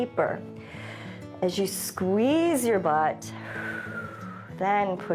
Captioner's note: exhales